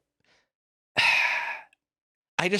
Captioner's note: sighs